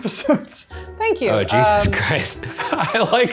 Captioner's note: laughs